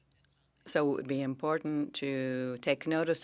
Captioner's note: speaking French